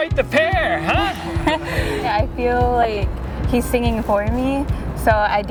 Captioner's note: laughs